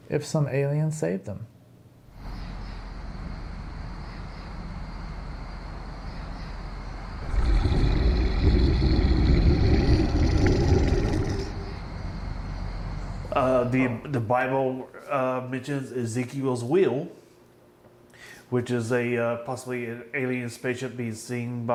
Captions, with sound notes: if some aliens saved them. (insects chittering) (birds chirping) (dinosaur roars) -: The Bible mentions Ezekiel's wheel, which is possibly an alien spaceship being seen